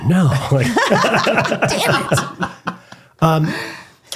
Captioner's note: laughing